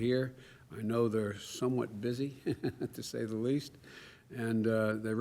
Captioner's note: laughs